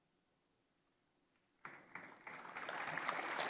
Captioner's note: applause